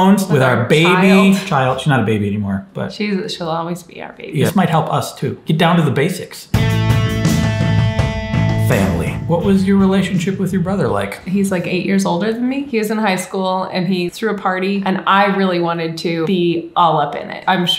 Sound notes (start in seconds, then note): 6.5 uplifting music; 8.7 voiceover